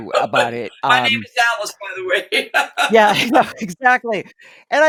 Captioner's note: laughter